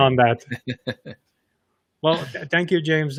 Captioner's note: laughs